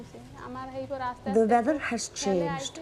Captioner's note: speaking foreign language